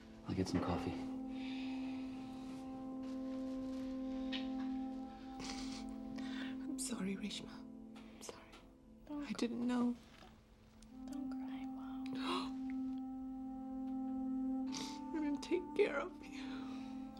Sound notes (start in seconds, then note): 6.6 cries